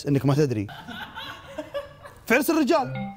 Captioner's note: people laughing